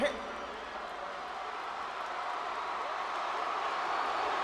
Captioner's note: audience cheering